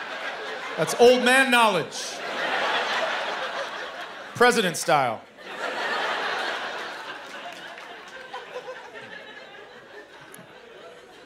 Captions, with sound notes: That's old man knowledge. President style. [laughter]